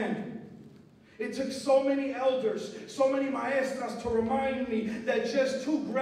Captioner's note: non-english speech